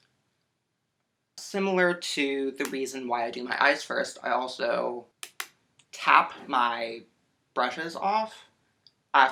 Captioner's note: tap, tap